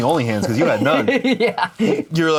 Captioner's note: laughs